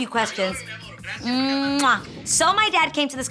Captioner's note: dad speaking foreign language; lips smacking